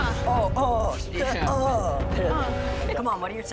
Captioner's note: groans; Gordon groans; groans